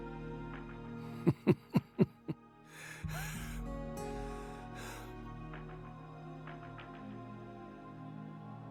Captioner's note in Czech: temný smích